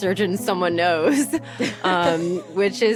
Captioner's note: laughter